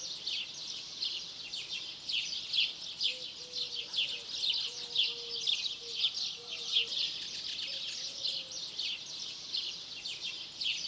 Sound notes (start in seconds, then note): 4.2 birds chirping